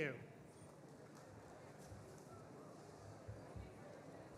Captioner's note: audience chatter